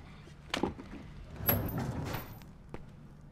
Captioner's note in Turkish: Kapı açılma sesi; Ayak sesleri